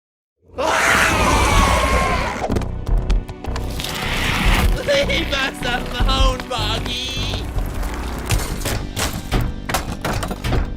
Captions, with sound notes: [SCREAMING] LEAVE US ALONE BUGGY!